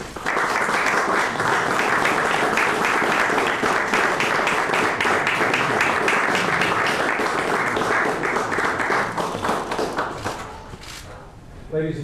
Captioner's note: applause